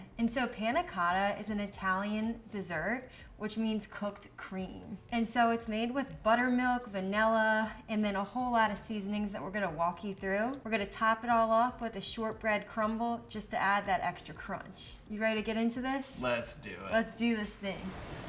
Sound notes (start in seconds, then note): none